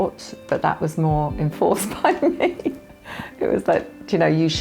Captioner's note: laughs